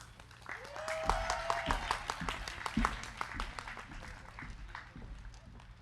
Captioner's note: crowd clapping; crowd cheering